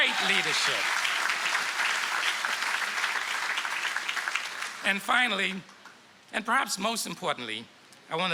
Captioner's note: applause